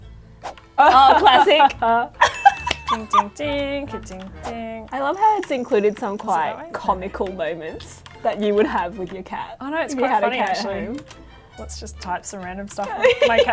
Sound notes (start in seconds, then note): 2.2 both laughs; 2.3 ping; 13.0 laughs